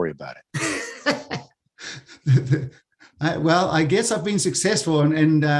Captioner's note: laugh